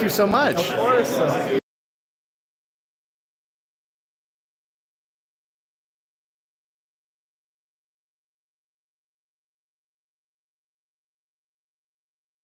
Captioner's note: no audio